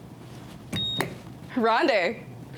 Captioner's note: buzzer beeps